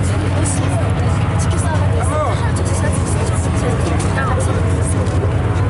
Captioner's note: pilots speaking in Korean